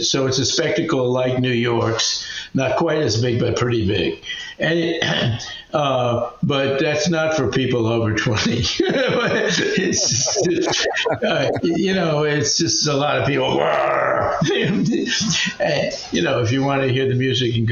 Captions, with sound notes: So it's a spectacle like New York's, not quite as big, but pretty big. But that's not for people over 20. (laughing) You know, it's just a lot of people, (growls) You know, if you want to hear the music,